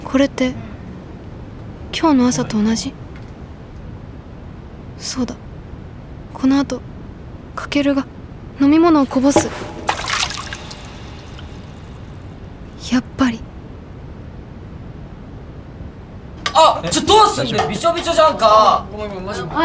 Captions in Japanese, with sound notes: これって 今日の朝と同じ そうだ このあと 翔が 飲み物をこぼす （水がこぼれる音） やっぱり ちょっと どうすんだよ ビショビショじゃんか